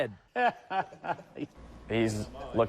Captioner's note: laughs